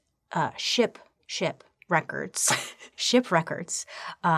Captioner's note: laughing